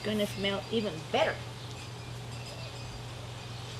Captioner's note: none